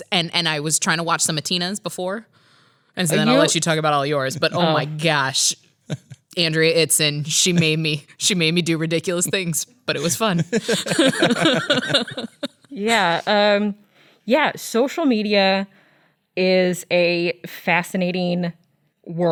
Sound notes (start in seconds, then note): 9.9 laughs